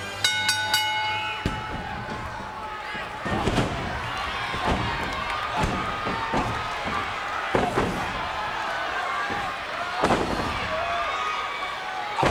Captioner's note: applause